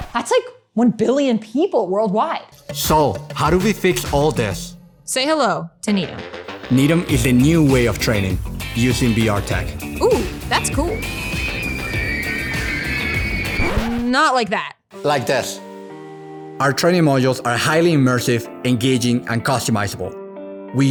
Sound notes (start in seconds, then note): 10.8 screams of excitement